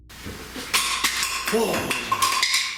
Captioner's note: crashing sound